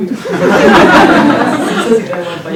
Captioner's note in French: rires